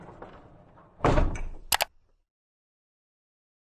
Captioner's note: click